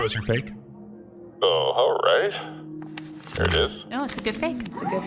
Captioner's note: sound of C.L.I.N.T. pulling out FAIC